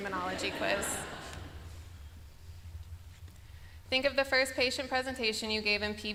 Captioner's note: laughter